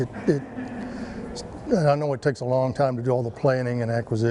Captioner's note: laughs